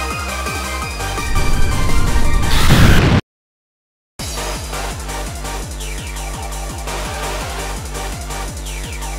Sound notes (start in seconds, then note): 2.6 explode_sfx